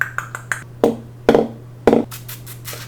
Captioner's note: clicks tongue; bangs pencil on desk